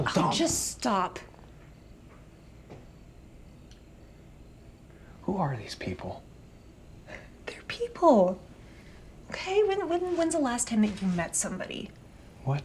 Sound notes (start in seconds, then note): 1.5 crickets chirping; 6.8 Claire scoffs